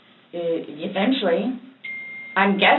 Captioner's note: cell phone dings